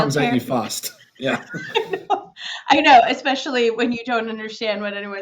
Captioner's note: laughing